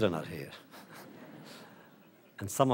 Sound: audience laughter

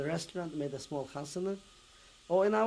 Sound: non-english

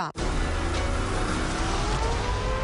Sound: siren blaring

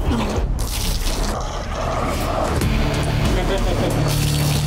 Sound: customer vomiting

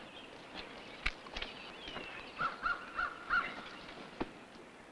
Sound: birds chirping and cawing

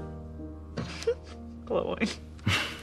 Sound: giggle

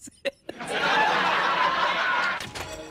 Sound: As Tauro, Laughing; canned Laughter

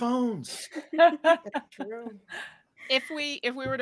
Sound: group laughing

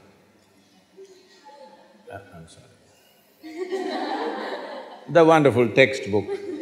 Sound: laughter; laughter

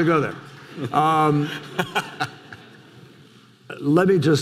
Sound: laughs

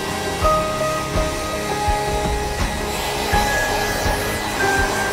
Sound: dryer whirring

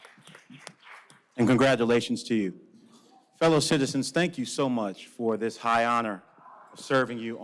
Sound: cheers and applause

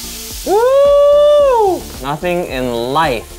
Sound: cheering

